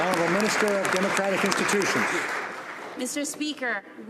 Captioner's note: some Applause